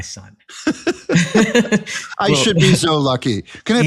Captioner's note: laugh